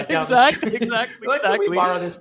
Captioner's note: laughing